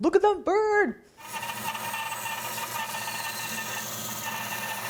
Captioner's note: bandsaw screeches